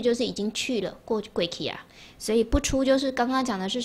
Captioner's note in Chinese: 台語